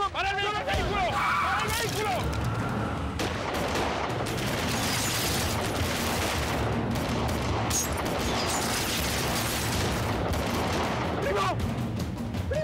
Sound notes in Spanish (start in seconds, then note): 3.0 Disparos